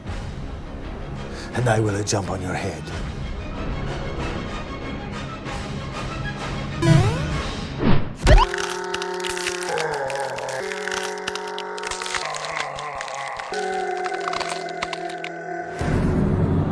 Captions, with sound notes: and I will jump on your head. (mario jump effect) (slow motion shouting)